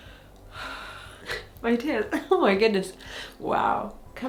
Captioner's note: sighs